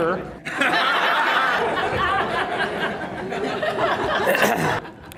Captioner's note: audience laughter